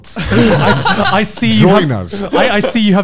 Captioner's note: laughing